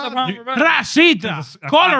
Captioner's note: speaking Spanish